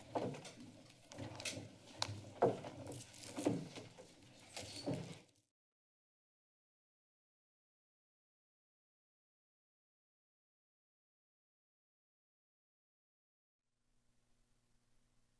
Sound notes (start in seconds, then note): 5.7 silence